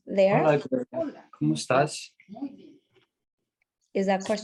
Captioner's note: attendee speaks in Spanish